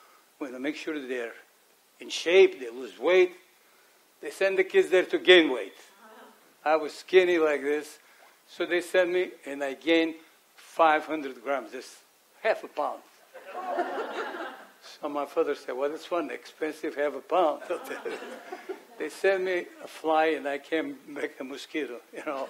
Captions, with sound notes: We're gonna make sure they're in shape, they lose weight. They sent the kids there to gain weight. I was skinny like this so they sent me and I gained 500 grams, just half a pound. [AUDIENCE LAUGHS] So my father said, "Well this one expensive half a pound." They send me a fly and I can't make a mosquito, you know?